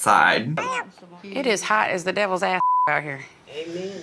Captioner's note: beep